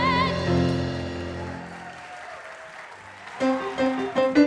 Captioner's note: audience applause